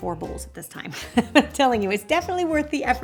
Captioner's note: laughs